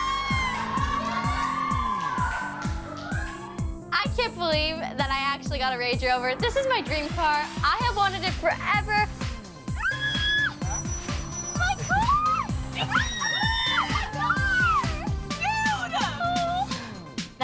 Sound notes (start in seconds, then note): 0.0 all screaming; 9.7 screaming; 15.5 screaming